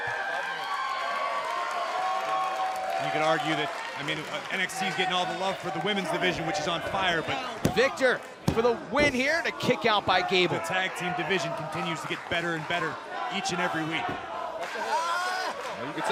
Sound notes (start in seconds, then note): 2.2 cheers & applause